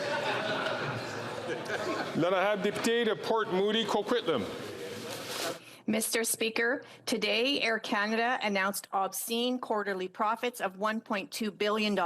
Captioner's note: chatter